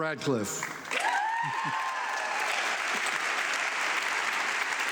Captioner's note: audience clapping